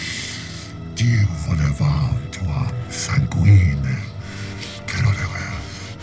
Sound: speaks in foreign language

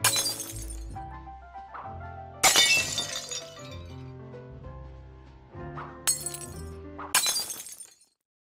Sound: snowballs being thrown, glass breaking

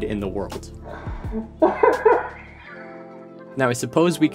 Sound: laughter

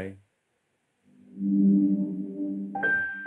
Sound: google home chime

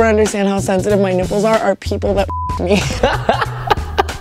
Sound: beep; laughs

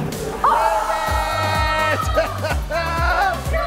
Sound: yelling; laughing

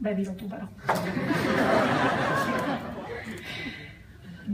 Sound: laughter

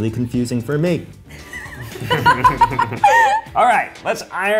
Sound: laughing

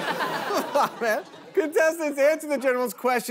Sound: laughs

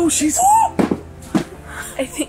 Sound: yelps

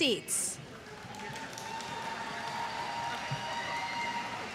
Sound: applause

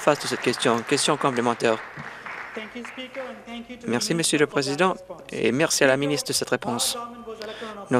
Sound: applause

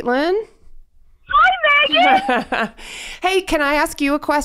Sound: chuckles

